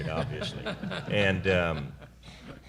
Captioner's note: laughter